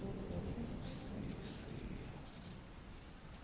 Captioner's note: whispering